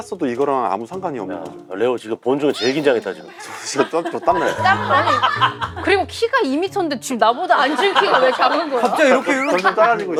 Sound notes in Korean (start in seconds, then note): 4.7 웃음